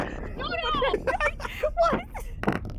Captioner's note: all laughing